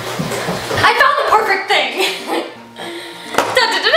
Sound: laughs

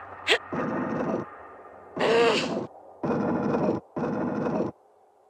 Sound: more more gruntings

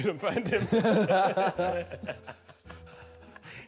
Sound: men laugh

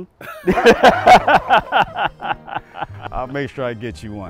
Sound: both laughing

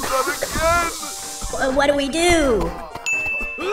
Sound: gas hissing, coughing

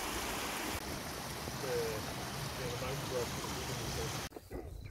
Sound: water sounds

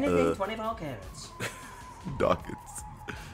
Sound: laugh

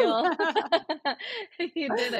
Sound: both laugh

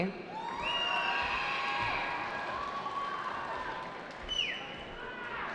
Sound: cheering

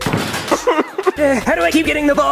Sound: crying

